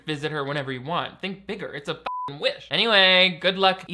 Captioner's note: beep